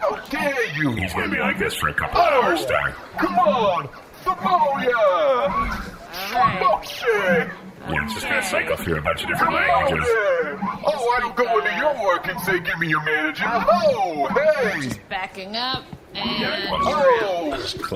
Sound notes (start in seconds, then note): 4.9 outraged noises vaguely approximating New Yorker-esque outbursts